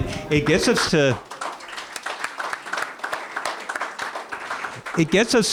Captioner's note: applause